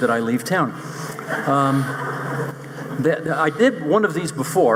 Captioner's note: audience laughing